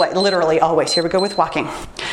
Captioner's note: timer beeps